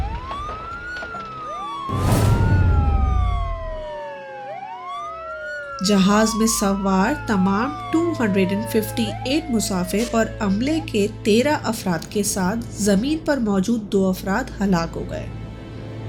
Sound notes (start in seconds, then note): 0.0 blast!; 0.3 ambulance Siren; 1.8 blast!; 3.8 ambulance Siren